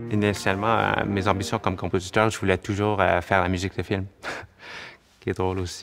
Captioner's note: laughs